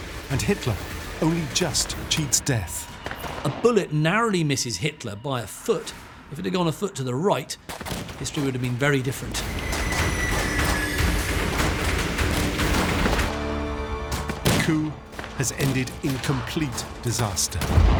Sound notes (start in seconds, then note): 9.6 rapid gunfire